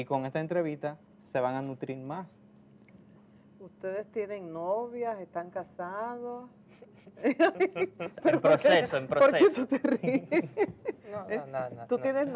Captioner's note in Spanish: risas